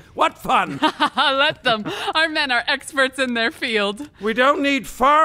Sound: laughs

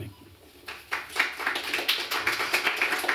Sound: applause

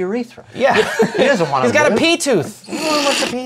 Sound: laughter

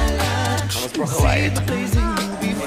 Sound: laughs

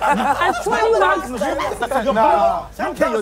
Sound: laughing; shouting indistinctly

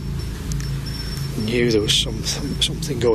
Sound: device beeps

